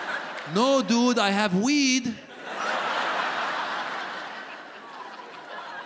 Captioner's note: audience laughs